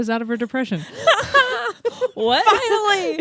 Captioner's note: both laugh